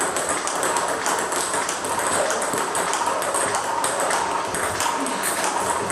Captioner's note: ball ping pong hitting continues